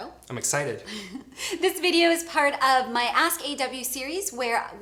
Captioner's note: laughs